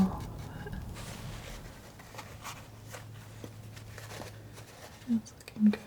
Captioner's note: scratching